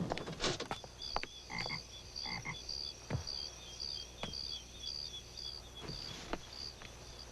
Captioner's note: crickets chirping; frogs croaking